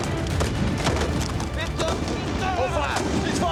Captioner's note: fire roaring; soldiers shouting